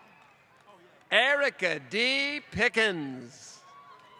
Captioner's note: applause